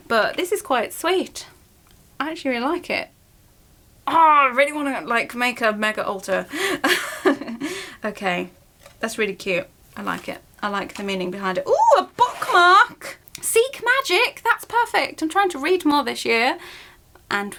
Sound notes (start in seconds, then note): 6.6 laughs